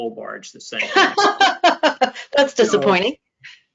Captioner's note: laughs